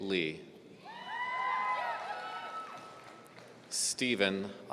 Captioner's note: audience cheering